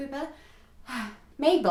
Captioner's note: deep breathe